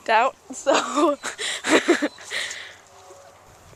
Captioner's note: laughing